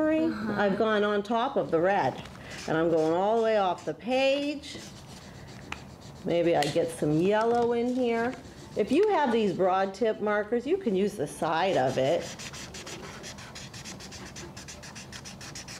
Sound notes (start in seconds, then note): 11.5 scratchy sound